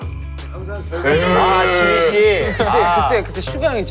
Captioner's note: cried